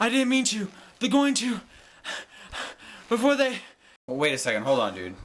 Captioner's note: breathing heavily